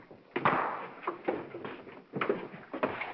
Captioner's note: whack